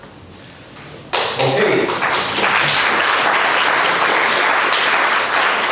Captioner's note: applause